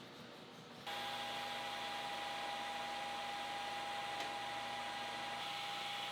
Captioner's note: machine whirring and squeaking